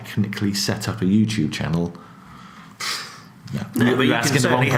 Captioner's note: blows air